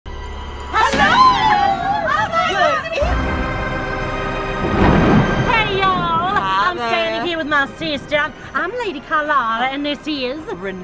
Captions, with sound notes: (ominous music) - Hello! (attendee yelps) - Oh, my God! (scary music) (thunder) - Hey, y'all. - Hi, there. - I'm standing here with my sister. I'm Lady Carlotta and this is- - Renatta, hi.